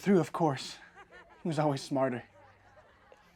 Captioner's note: classmates laughing